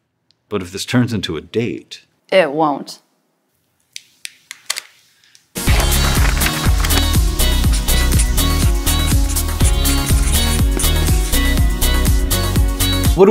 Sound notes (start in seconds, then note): 3.4 silence; 5.6 intro music